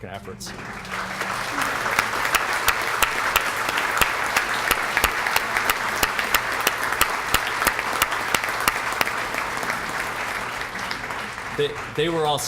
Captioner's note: applause